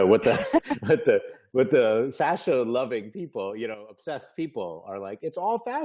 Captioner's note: laughing